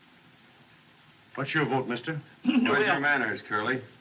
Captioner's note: clears Throat